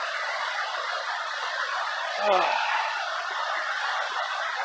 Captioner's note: contented sigh